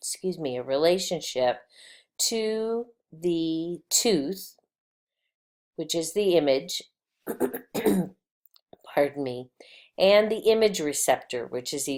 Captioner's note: clearing throat